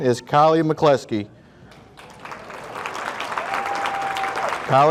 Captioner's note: audience applauding; audience cheering